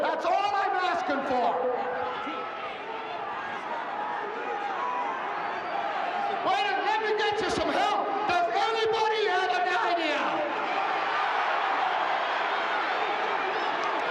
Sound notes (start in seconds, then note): 1.3 audience chattering; 9.8 audience clamoring